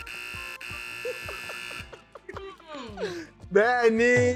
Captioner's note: laughs